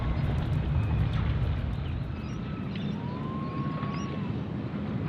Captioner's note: monkeys howling